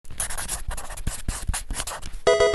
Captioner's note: marker scratching; electronic game chime